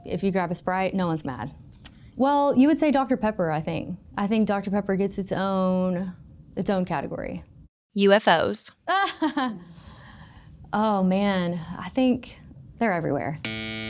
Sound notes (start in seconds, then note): 8.9 laughs